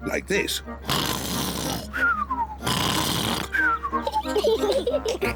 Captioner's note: snores loudly; both giggle